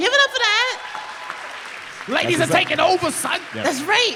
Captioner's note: applause